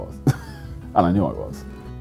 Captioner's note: laughing